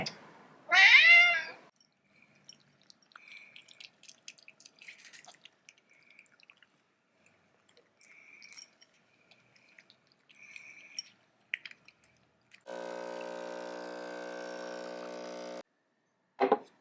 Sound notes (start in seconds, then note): 0.7 cat: meow; 1.8 cats eating sound; 12.6 coffee machine sound